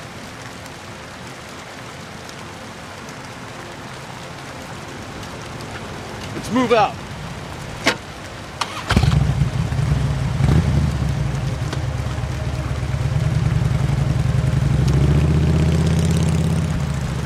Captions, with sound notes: Let's move out! [motorcycle rumbles]